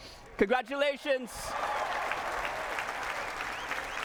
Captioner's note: cheering and applause